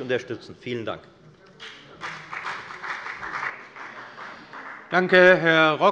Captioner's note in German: Beifall bei der FDP